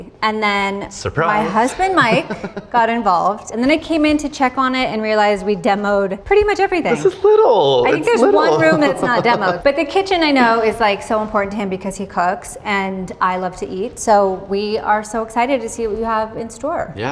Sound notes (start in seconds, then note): 7.8 laughs